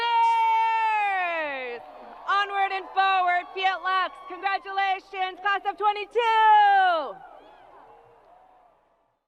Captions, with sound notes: Onward and forward, the alums. Congratulations, class of '22! (crowd applause)